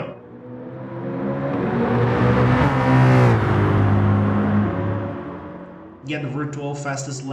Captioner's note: engines revving, cars noises